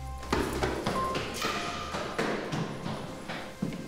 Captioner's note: footsteps plodding